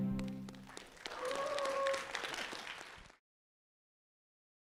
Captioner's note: applause